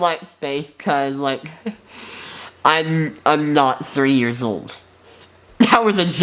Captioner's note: laughs